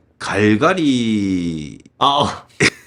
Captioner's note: laughs